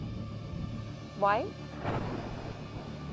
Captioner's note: lightning snaps; gentle dramatic music